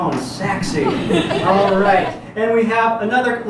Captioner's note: audience giggles